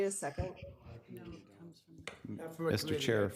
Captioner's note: chattering